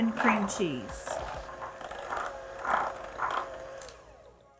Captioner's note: mixer whirring